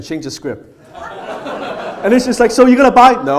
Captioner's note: audience laughs